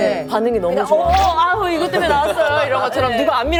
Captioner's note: laughs